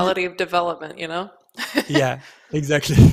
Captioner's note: laughs